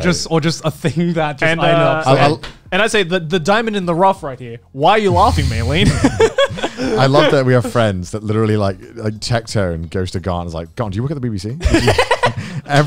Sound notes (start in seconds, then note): 7.2 laughing